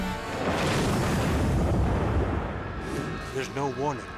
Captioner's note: crane booming